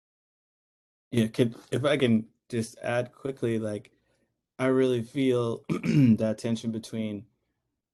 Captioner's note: cough